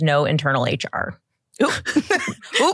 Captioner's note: laughter